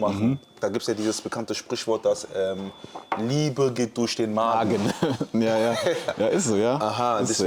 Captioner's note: gelächter